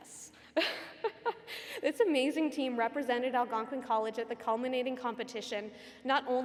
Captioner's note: laugh